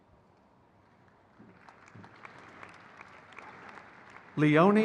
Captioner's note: crowd cheers